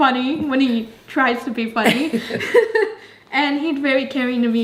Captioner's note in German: lacht